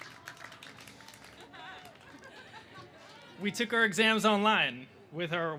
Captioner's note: applause